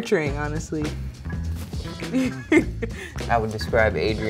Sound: girl laughing

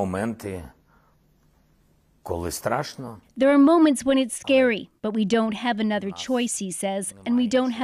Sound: speaking alternate language

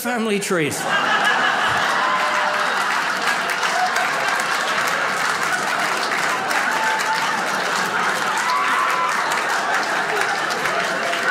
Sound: audience laughs

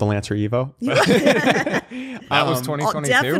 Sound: laughter

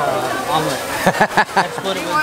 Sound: laughter

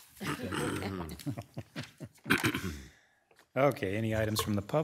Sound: members chuckling

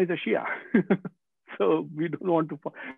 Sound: laughing

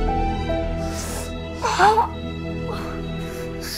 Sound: shrieks

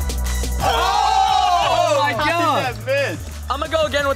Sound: electronic music; screaming and laughing

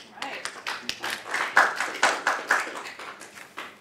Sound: applause

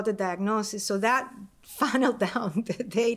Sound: laughter

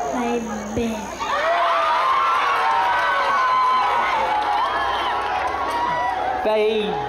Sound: boisterous applause and cheering

